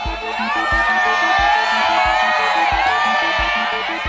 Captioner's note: crowd cheering